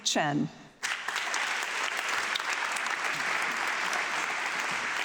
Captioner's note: audience clapping